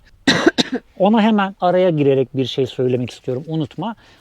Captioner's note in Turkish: öksürme